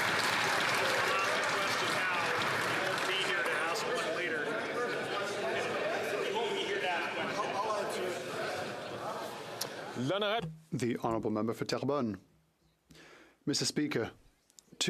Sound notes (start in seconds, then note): 3.1 some Applause